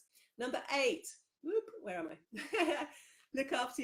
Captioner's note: laughs